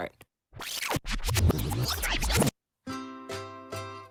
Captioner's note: video rewinding; ukulele music